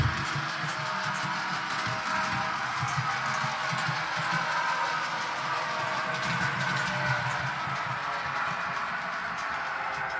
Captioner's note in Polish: Aplauz